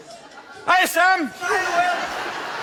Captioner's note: Will shouts